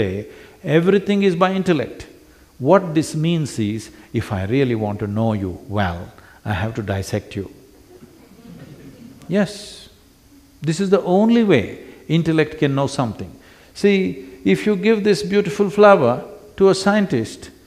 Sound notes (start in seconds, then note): 7.7 few laugh